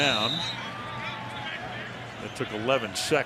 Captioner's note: whistle